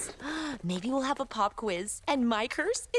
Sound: gasps

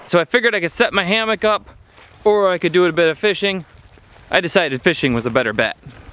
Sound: none

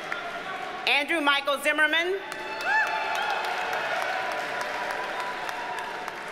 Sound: audience cheers and applauds

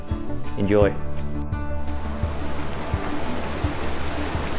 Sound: water flowing

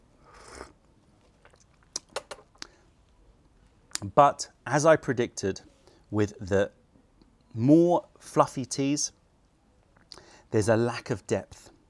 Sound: sips tea

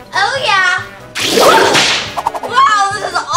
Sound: whip cracks; liquid squishes

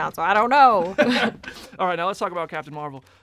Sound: laughter

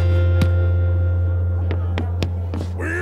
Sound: footsteps; footsteps approach

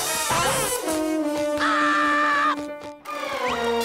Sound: screaming

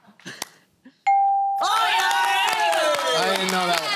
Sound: cheering

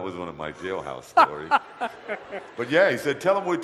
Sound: audience laughter

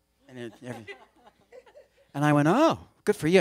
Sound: laughter

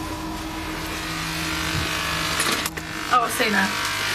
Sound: loud buzzing

